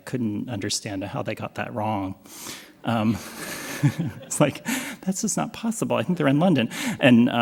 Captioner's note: laughs